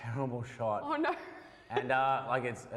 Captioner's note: laughs